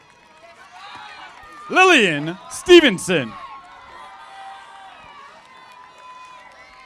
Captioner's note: audience applauding